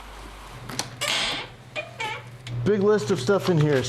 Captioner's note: freezer creaks